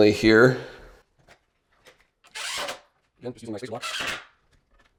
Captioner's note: screwdriver revving